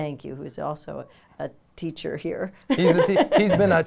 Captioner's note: laughs